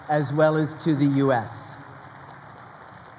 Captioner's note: crowd applauding